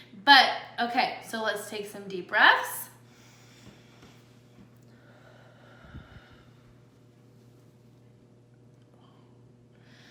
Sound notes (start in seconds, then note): 4.8 breathes deeply